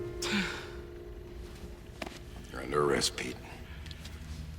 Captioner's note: sighs